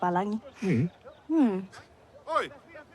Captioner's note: scoffs